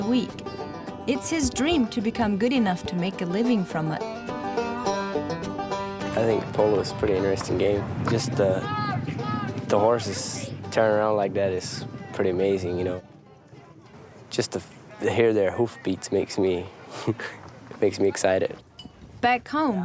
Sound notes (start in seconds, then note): 11.6 horses